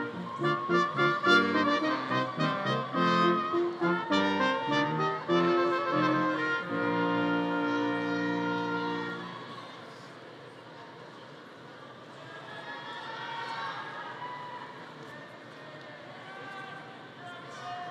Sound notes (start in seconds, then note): 4.5 upbeat music continues; 9.8 people chattering